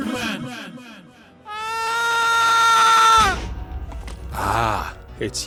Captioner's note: screaming